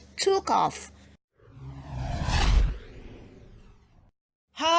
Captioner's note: witch's broom swoosh